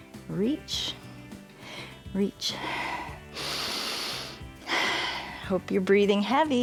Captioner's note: inhales and exhales